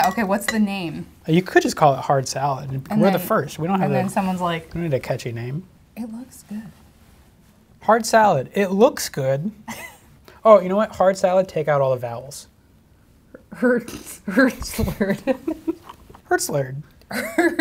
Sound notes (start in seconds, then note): 14.8 laughing